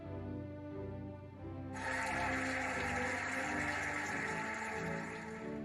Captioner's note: cheering and applauding